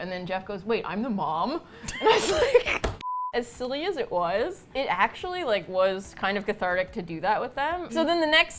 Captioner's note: both laugh